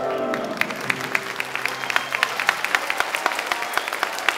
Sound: audience clapping

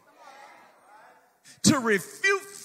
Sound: congregation murmurs excitedly

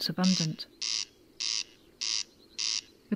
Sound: corncrake calling

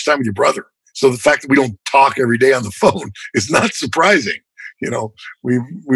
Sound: laughter

